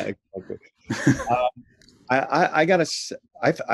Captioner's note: both laugh